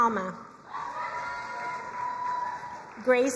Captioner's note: crowd cheering and applauding